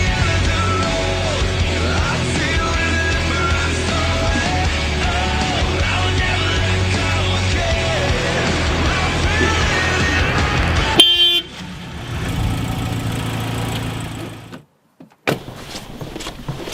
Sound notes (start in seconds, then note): 10.8 honk!